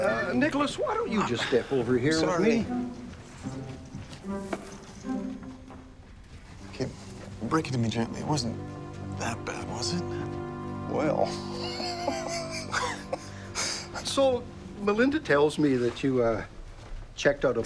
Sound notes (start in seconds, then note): 11.3 Dad laughs